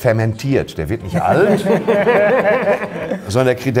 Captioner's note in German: Lachen